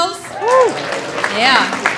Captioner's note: audience applauding; audience cheering